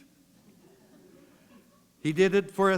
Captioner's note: chuckle